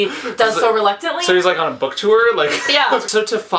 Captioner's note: laughs; laughs